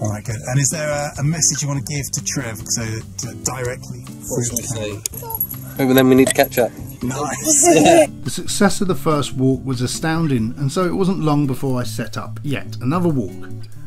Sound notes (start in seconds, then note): 7.0 laughs; 7.3 burps